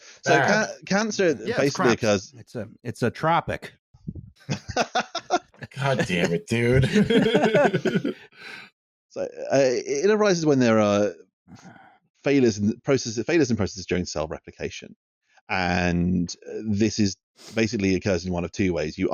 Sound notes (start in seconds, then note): 4.5 laughs sharply; 7.8 much laughter